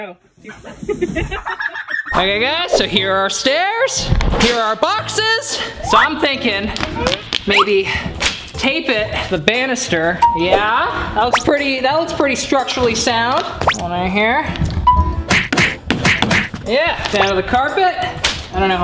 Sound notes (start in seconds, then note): 0.7 laughs loudly